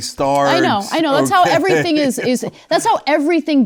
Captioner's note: laugh